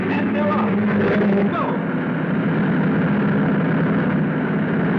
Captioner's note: cars thrumming